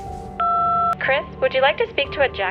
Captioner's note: phone beep